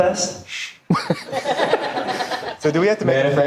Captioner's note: audience laughing